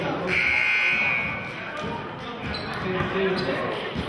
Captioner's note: buzzer sounding